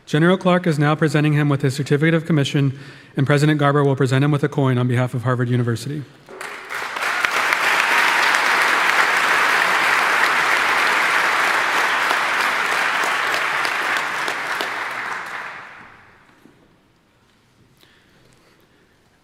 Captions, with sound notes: General Clark is now presenting him with his Certificate of Commission, and President Garber will present him with a coin on behalf of Harvard University. (audience applauding)